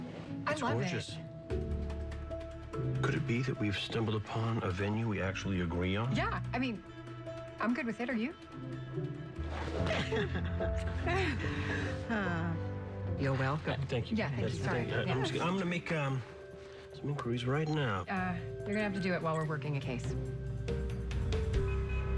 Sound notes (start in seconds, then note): 9.8 chuckles; 11.0 sighs